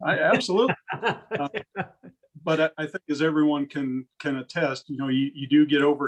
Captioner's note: laugh